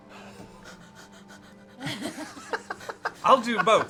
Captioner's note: starts hyperventilating